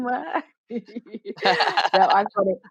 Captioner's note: laughter